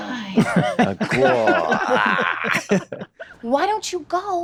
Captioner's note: groans